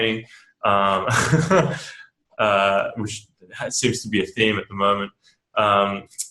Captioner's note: laughs